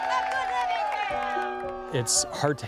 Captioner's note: kids cheering